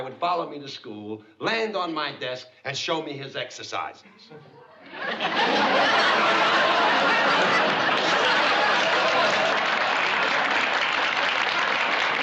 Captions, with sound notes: would follow me to school, land on my desk, and show me his exercises. [LAUGHTER] [APPLAUSE]